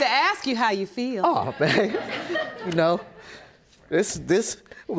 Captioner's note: audience chuckle